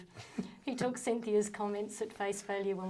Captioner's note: both chuckling